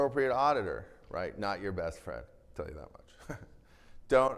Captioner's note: chuckles